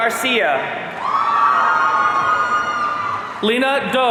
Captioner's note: audience cheering